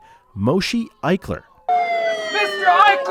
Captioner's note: sirens blare